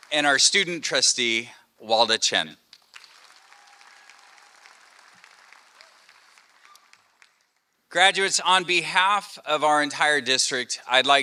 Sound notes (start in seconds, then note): 2.7 applause